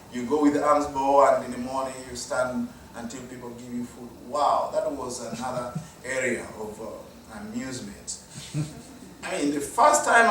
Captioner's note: audience chuckle